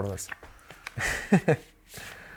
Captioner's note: laughs